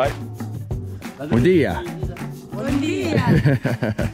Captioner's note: speaking in a foreign language; villagers speaking in a foreign language; laughing